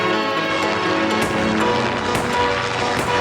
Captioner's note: gunshot